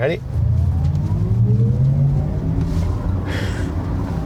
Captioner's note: car accelerating